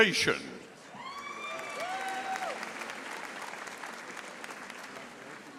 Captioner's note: audience applauding